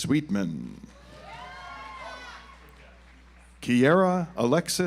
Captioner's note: audience applauds